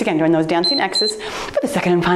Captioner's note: timer beeps